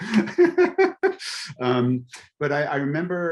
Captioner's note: laughing